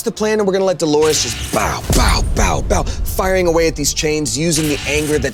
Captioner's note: imitating blasting